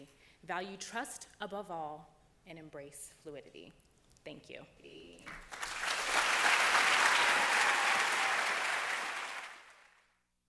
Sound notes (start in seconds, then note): 5.2 applause